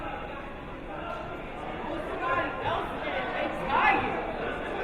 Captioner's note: players murmuring